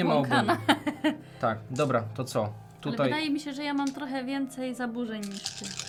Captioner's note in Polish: śmiech